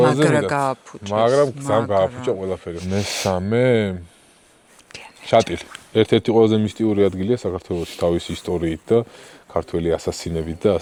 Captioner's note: is whispering Mountainous Racha